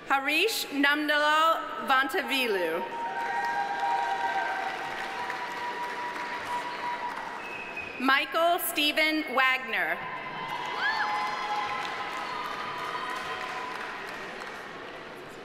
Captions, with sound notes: Hareash Nandalal Vontivilu. (audience applauding) (audience cheering) Michael Steven Wagner. (audience applauding) (audience cheering)